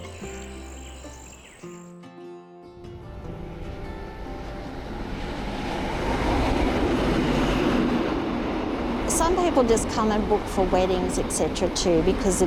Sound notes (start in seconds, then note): 4.0 train rumbling